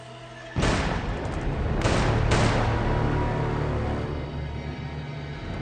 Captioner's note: gunshots